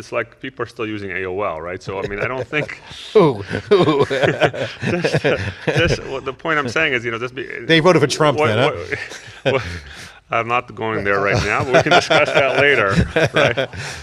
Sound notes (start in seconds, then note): 4.3 laughing